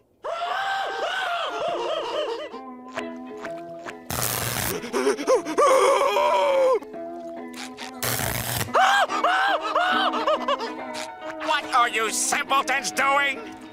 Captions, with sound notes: [screaming] -[zap] -[screams] [screams] What are you simpletons doing?